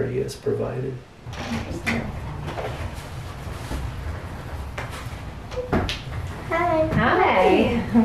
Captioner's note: sound of door opening